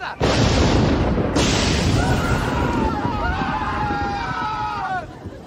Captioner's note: thunder strike; lightning hits Kramer, Seinfeld and Costanza scream in horror